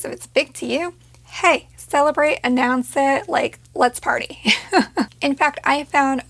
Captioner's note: laughs